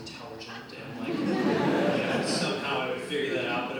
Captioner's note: audience laughs